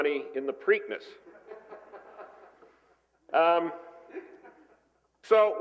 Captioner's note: laughter